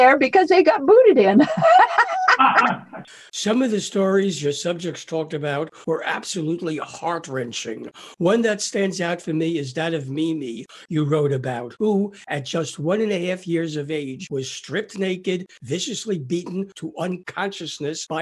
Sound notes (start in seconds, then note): 1.4 laugh